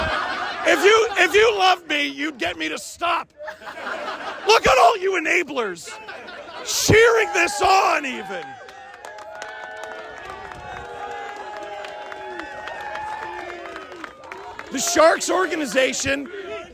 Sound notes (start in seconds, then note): 8.2 Crowd claps empathetically, chanting Steve’s name